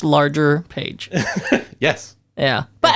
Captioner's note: laughs